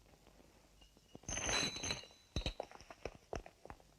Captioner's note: chains clinking